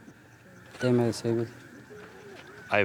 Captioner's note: speaking Spanish